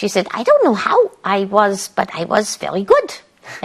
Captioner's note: as Dr. Ruth